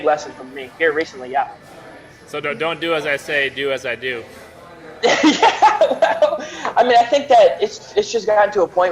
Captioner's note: laughter